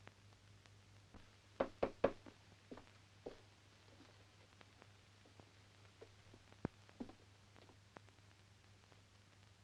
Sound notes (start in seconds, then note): 1.6 door knocking